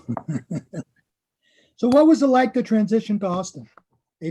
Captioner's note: laughing